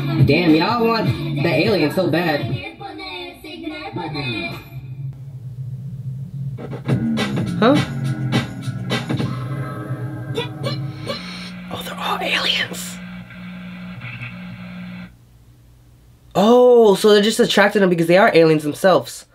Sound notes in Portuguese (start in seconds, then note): 11.6 Sussurra